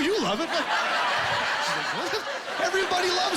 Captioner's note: laughing